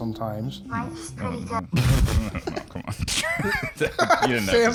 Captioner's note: noises of incredulity and disgust